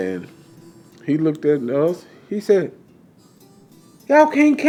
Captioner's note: laughs